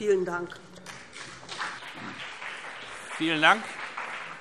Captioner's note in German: Vereinzelter Beifall BÜNDNIS 90/DIE GRÜNEN